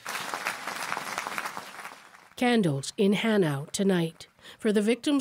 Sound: applause

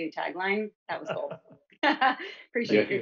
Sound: chuckles

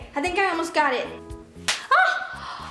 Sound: slapping sound

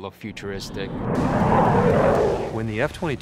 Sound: jet engine roar

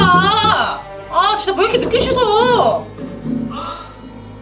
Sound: thud thud thud thud!!

